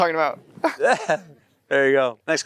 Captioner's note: Matthew chuckles; Timothée chuckles